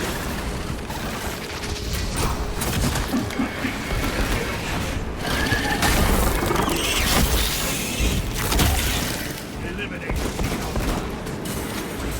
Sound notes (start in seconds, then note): 4.6 gunfire